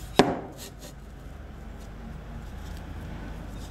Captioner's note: distant traffic noise